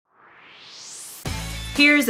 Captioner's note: swoosh